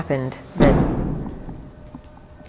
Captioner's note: thud